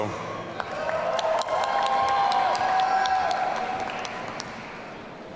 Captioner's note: audience cheering